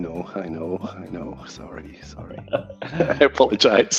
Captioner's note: both laughing